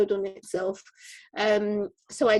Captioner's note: none